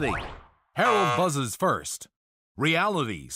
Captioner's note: buzzer